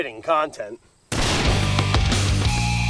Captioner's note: gunshot bangs; hard rock music